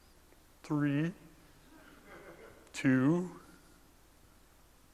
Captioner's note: laugh